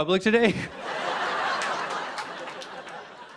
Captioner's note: laughter